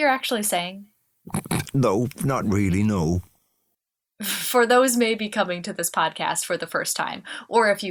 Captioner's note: laughs